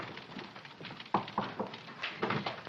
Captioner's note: knocks on door